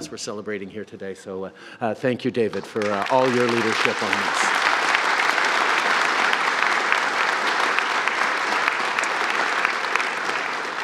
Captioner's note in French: Applaudissements